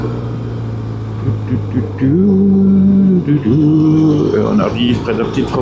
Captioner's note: engine